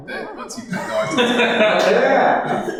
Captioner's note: laughter